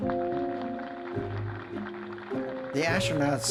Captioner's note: crowd applauding